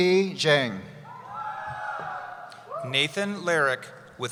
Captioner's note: cheering